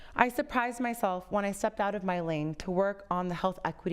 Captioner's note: none